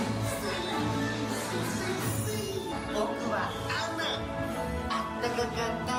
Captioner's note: joyful music; Olaf speaks Japanese